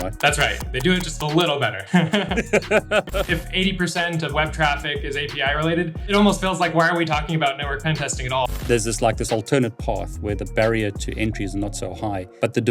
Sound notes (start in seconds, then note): 1.7 chuckles; 1.7 laughs